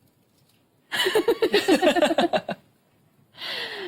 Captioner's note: laugh